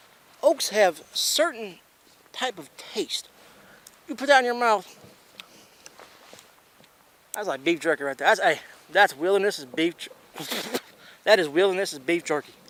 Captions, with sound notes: Oaks have certain type of taste. You put that in your mouth. (chewing) That's like beef jerky right there. That's wilderness' beef-- (spits) That is wilderness' beef jerky.